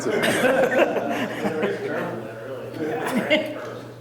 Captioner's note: all laughing